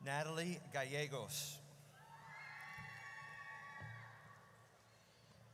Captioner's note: audience cheers